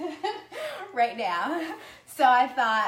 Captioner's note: laughs